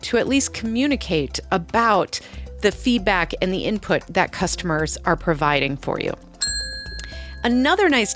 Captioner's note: ding